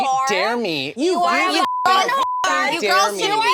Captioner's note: beep; Kardashians shout over each other